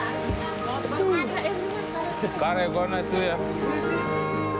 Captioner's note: people chatter